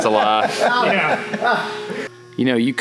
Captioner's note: laughs loudly